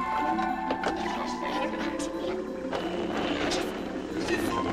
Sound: static, Indistinct

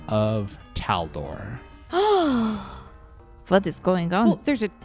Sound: gasps

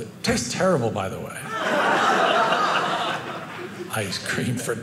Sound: audience laughing

